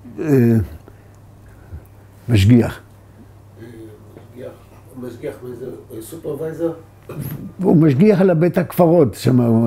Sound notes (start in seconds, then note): 2.7 in Hewbrew